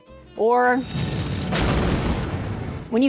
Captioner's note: explosion